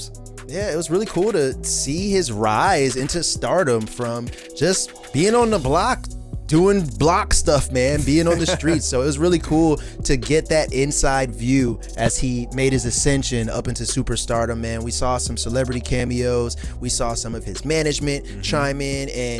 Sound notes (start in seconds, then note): 7.9 laughs